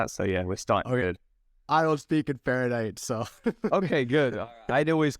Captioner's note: laughter